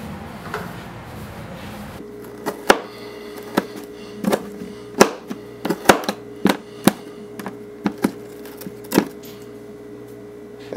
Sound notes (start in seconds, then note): 2.4 chopping